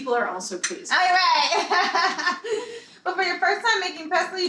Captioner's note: laughs